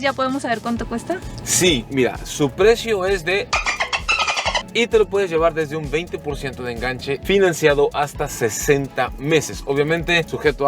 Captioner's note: sound of dolphin